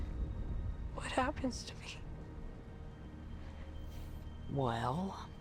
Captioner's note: breathes uneasily